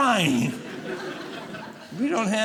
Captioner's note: audience laughing